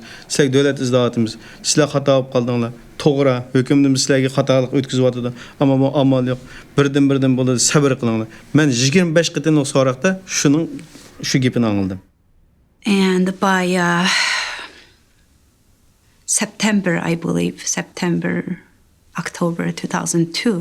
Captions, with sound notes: - And by, uh... (Sighing) ...September, I believe-- September, October, 2002--